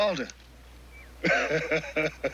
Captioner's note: laughing